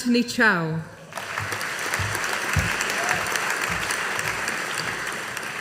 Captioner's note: audience applauding